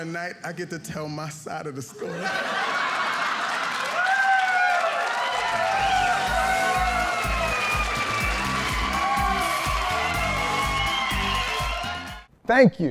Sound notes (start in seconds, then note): 2.3 audience applauding